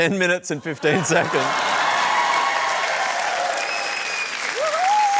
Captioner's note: cheering and applause